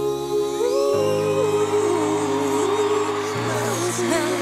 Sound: crowd cheering

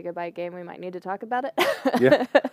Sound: laughter

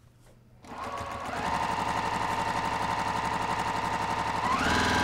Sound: sewing machine stitching

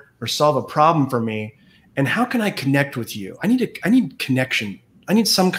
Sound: none

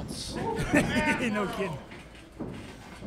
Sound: chuckles

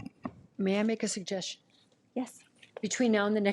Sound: none

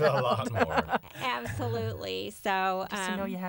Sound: laughter

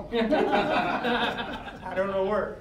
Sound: all laughing

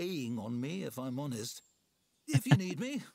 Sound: laughs

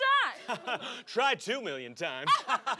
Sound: laughter

